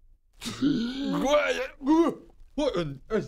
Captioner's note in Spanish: Hrrrgghh... hyyyhh-brrrgh